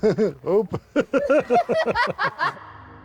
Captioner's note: laughing